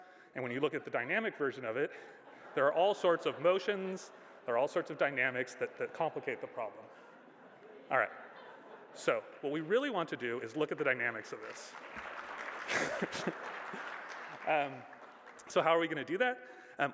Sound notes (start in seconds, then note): 11.2 applause